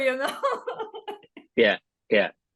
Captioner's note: laughs